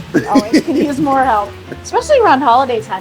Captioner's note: laughs